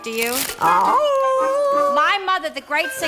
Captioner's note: howl